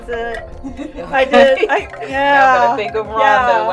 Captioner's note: laughter